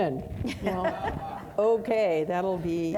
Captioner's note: audience laughing